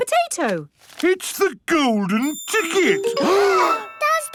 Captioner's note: gasps